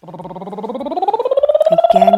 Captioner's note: lips trilling